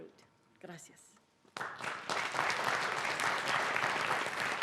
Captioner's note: applause